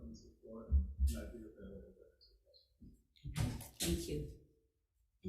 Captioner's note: faintly speaks